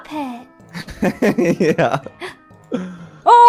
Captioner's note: laughs